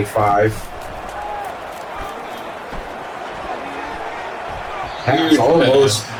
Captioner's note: crowd Noises